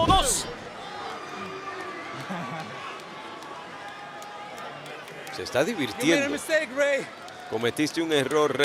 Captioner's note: applause